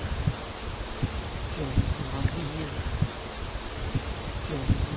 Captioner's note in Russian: Неизвестный женский голос,увеличенная громкость